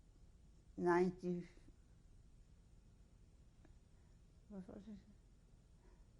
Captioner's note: pauses for 3 seconds